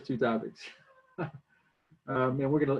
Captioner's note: laughs